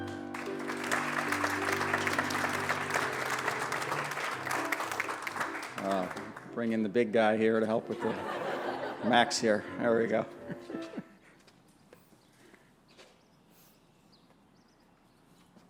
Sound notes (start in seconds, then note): 0.0 applause; 7.9 laughter